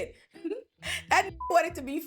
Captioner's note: beep